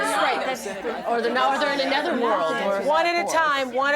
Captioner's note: crowd talking